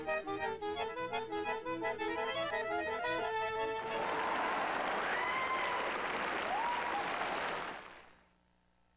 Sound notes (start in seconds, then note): 3.9 wild applause